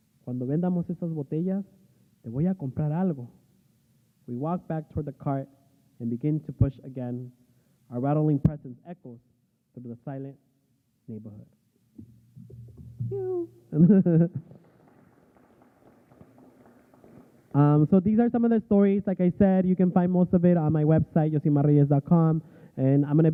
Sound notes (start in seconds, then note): 14.3 applause